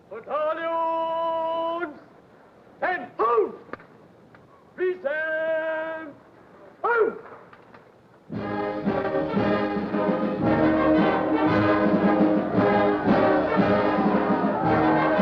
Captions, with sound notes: - Battalion, 10-hut. Present, hut. (patriotic orchestral music) (crowd cheering)